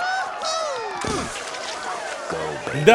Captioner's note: <i>grunts</i>